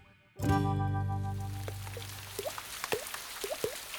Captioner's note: plonking